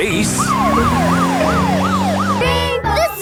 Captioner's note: siren wailing